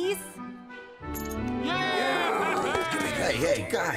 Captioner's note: all cheering